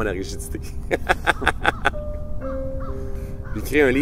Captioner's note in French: rires